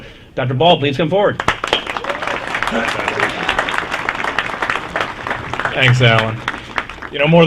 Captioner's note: applause